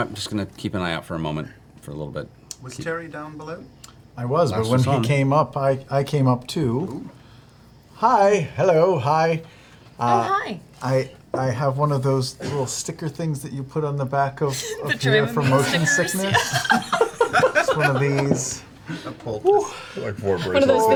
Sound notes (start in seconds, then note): 15.4 all laugh